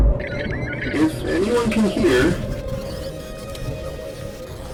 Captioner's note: tense music; announcement on the radio